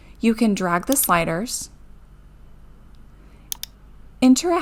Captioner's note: mouse clicking